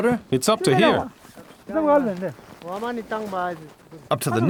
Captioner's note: speaking foreign language